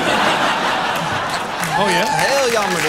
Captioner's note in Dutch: gelach